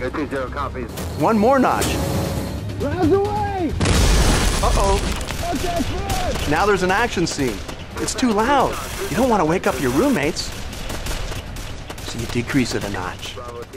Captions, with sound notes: One more notch. [loud explosion] Uh-oh! Now there's an action scene. It's too loud! You don't want to wake up your roommates! So you decrease it a notch.